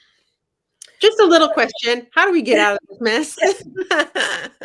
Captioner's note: laughter